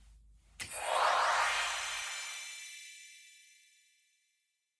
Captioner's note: magical sounds effect